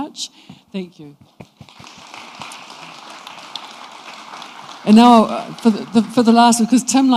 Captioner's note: applause